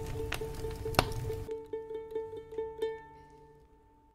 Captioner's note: crackling fire